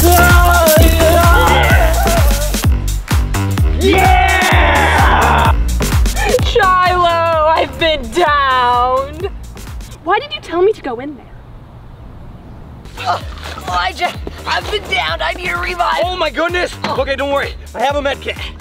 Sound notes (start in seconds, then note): 0.0 upbeat music; 0.1 screaming; 3.6 cheering